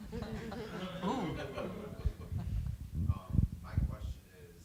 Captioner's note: audience groaning